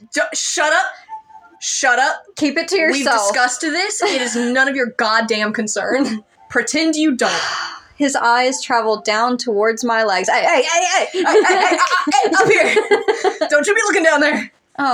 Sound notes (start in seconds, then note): 2.9 laugh; 7.3 sigh; 11.0 laugh; 12.2 snapping